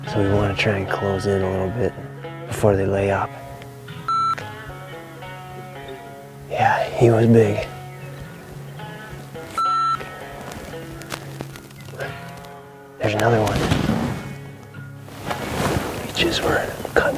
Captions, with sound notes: so we want to try and close in a little bit before they lay up. (beep sound) Yeah, he was big. (beep sound) There's another one. [whispering] I choose where